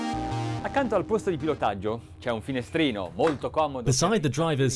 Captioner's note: man speaks in foreign language